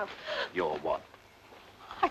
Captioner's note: Gwen gasps